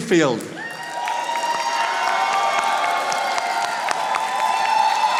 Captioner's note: audience applauding